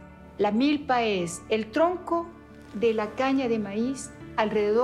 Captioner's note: in Spanish